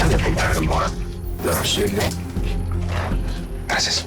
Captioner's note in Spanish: Habla entre dientes